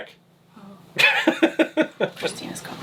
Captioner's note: laughs